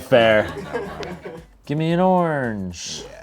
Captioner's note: crew laughs